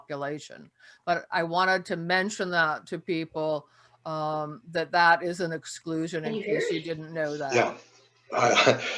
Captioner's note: soft laugh